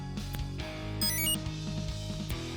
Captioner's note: enter chime